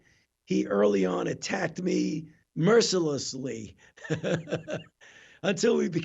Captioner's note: laughs